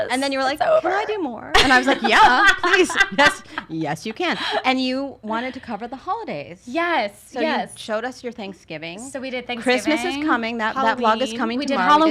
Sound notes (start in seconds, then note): 1.6 laughs